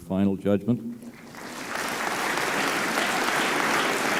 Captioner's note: applause